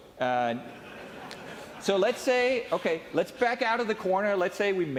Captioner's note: laughing